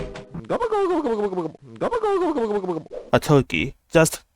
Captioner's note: turkey sfx